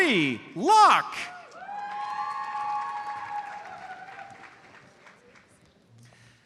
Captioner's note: audience cheers and applauds